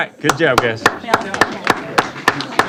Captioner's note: applause